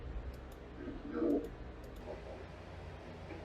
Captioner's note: from security footage, distorted